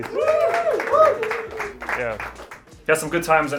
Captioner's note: applause